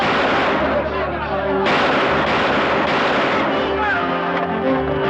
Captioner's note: gunfire; shouting